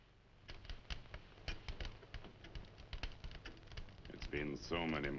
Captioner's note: fire crackling